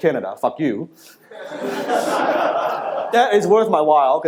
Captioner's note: laughter